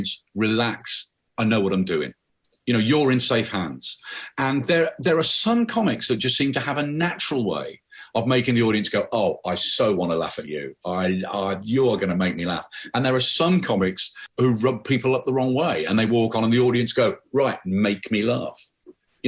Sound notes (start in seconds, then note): none